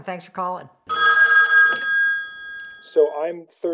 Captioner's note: phone rings